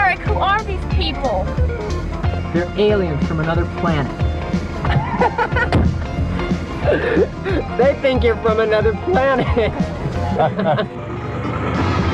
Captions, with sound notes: - Eric, who are these people? - They're aliens from another planet. - (laughs) They think you're from another planet.